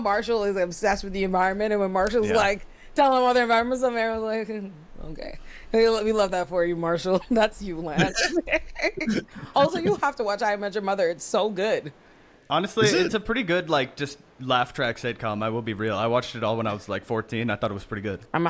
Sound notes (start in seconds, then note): 7.9 laughing